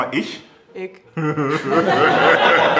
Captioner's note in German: Lachen